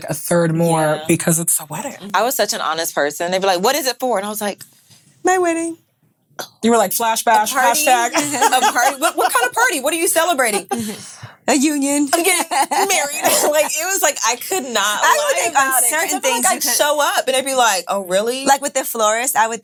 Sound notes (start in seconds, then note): 7.8 women laughing; 12.1 laughing